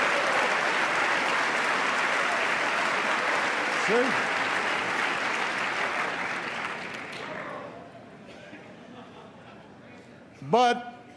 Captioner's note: applause